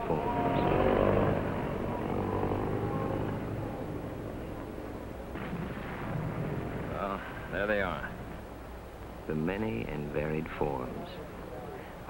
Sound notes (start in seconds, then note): 0.0 Jeep engine; 5.2 explosion in the distance